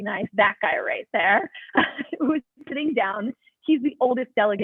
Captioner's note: laughter